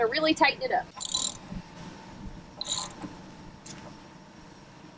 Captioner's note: ratchet clicks